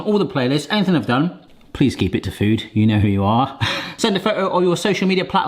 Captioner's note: laughing